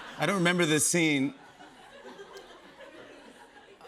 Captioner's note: laughter